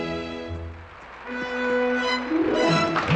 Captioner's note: audience Applauding